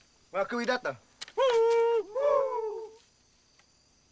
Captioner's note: natives hooting